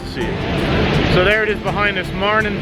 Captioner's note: water flowing